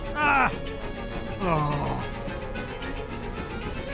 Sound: groans

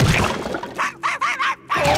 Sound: barking

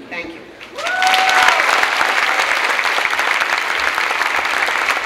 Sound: clapping and cheering

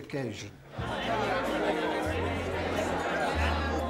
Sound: crowd chatter

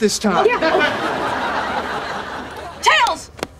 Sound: audience laughing

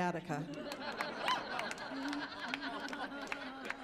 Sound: laughing

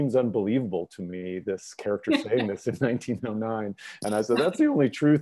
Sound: laughs

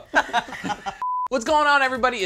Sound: all laughing

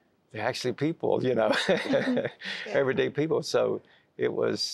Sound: chuckling

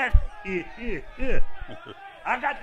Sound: laughs

